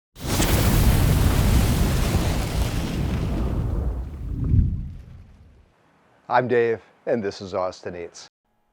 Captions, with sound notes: (animation whooshing) - I am Dave, and this is Austin Eats.